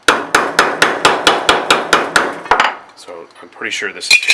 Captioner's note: hammering on metal